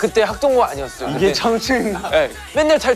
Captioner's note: haha